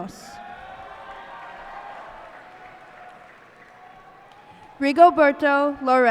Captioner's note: cheers and applause